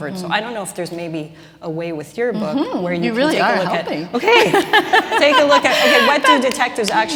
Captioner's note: laughter